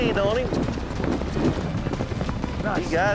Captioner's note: galloping horses